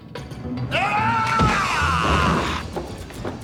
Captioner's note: yelling